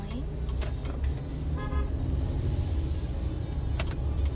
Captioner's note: horn Honking